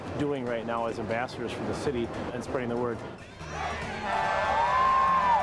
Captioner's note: loud cheering